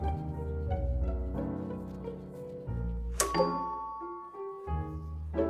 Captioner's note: doorbell rings